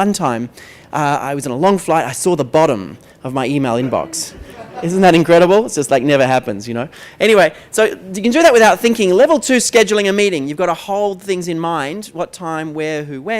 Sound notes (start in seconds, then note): 4.2 laughter